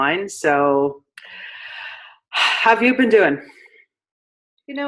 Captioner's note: sighs heavily